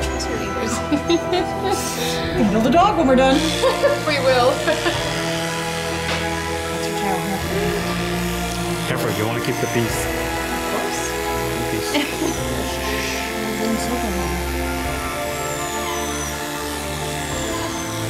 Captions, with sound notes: This. [Laughter] We could build a dog when we're done. [Laughter] We will. [Laughter] Careful, you want to keep the piece. Of course. One piece. [Laughter] Shh shh shh, everything's okay. [Whimpers]